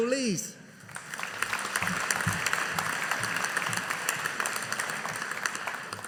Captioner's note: audience applauding